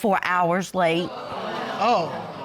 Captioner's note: audience exclaiming